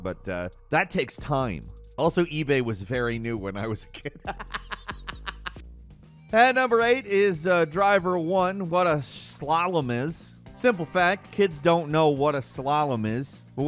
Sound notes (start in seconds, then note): 4.0 laughing